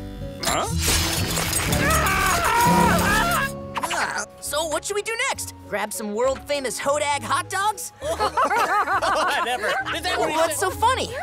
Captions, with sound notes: Huh? [screaming] So what should we do next, grab some world famous hodag hot dogs? [laughing] - Never. - What's so funny?